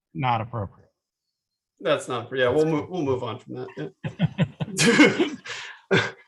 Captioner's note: laughter